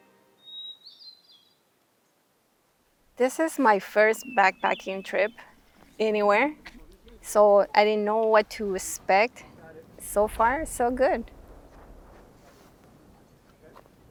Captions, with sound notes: - (women speaking) This is my first backpacking trip anywhere. So I didn't know what to expect. So far. So good.